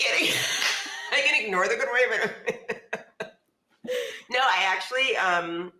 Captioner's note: laughs